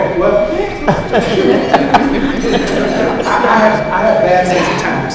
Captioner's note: laughing